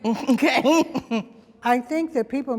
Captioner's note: laughs